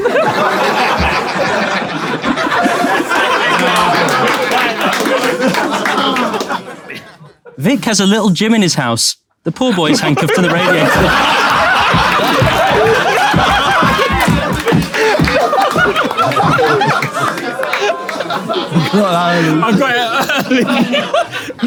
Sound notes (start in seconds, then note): 0.0 people in room laughing; 9.7 Tobi laughing; 12.0 people in room laughing